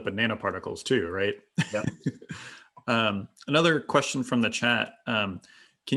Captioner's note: laugh